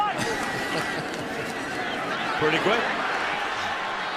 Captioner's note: laughs